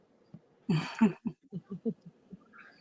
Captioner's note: laughs